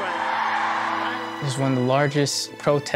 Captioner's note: crowd cheering